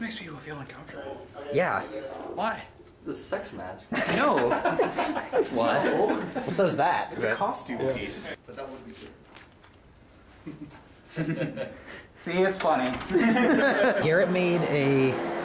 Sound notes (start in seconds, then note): 3.9 laughing; 13.0 laughing in background